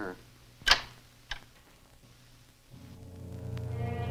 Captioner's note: door closes; ominous orchestral music